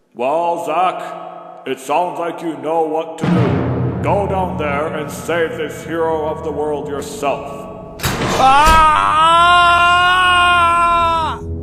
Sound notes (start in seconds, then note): 8.3 screaming